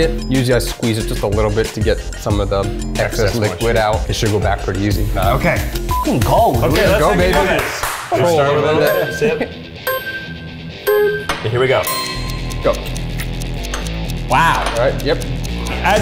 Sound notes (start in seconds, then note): 5.8 beep; 8.8 countdown dings